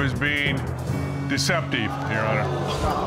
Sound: audience gasps

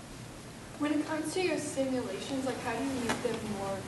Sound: voiceover

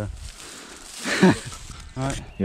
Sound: laughs

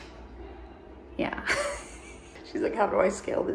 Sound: chuckles

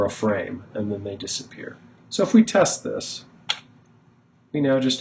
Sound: click

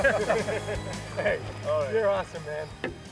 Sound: laughter

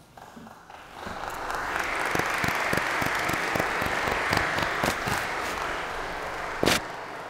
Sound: applause

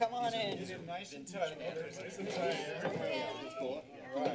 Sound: background conversations

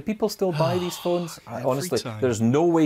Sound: sighs

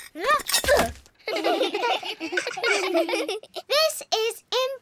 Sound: all giggle

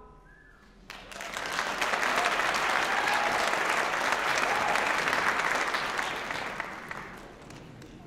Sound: applause, cheering

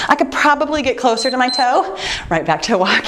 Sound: timer beeps

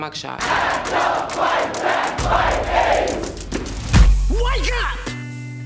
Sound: crowd chanting

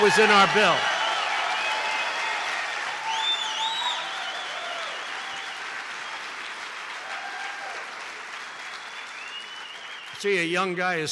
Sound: applause

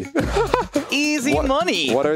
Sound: laughs

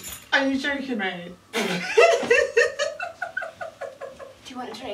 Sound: laughs louder

